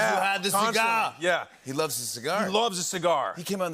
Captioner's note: normal voice